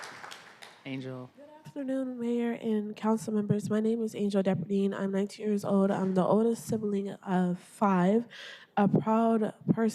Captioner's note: applause